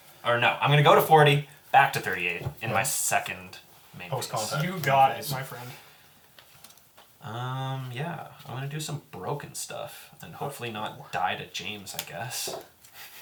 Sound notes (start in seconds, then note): none